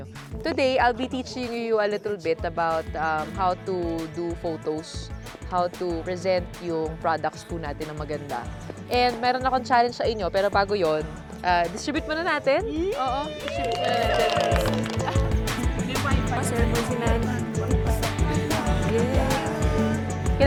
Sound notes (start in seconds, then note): 12.9 everybody cheering; 14.8 upbeat music